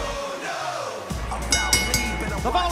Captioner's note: bell ringing